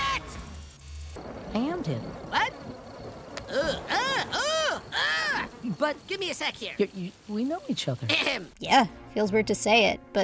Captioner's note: grossed-out noises